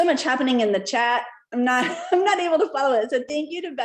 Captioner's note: laughter